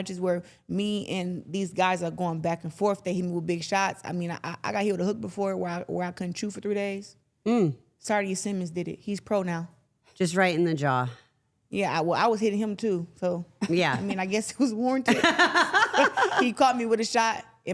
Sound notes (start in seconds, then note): 14.0 everyone chuckles; 15.2 everyone laughs